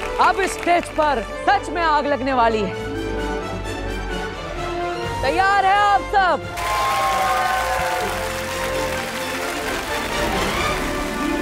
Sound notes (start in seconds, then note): 3.4 intense music playing; 6.5 cheering; 9.3 applauding